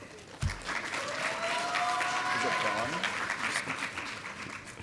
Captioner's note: audience applauding